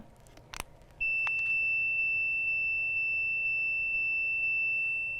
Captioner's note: Beep Box beeping